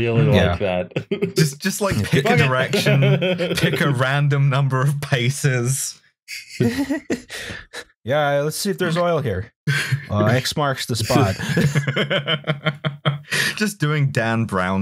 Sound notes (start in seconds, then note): 0.9 laughs; 6.6 laughter; 11.0 laughter